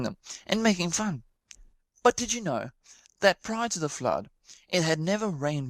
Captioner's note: none